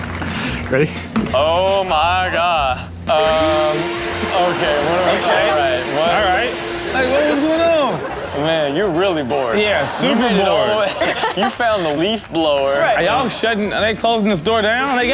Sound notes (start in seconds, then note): 3.1 leafblower whirring